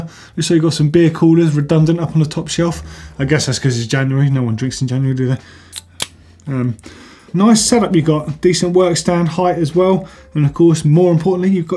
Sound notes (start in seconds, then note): 5.7 can opening